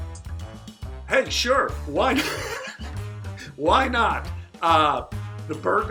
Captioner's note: chuckles